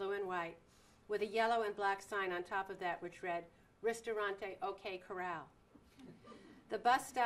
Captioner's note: laughter